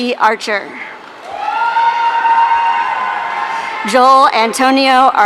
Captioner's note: audience cheering